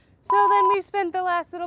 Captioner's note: beep